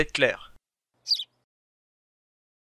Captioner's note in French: chant d’oiseau